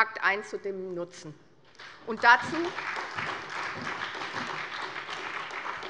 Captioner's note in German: Beifall bei der SPD